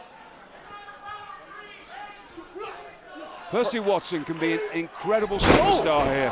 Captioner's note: crowd chatter